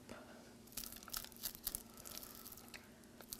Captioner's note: none